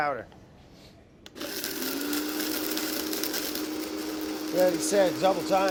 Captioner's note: blender whirring